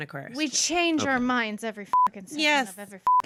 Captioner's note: beep